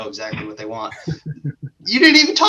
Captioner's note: laughs